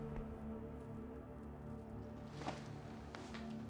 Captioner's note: none